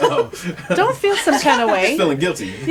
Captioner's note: laughter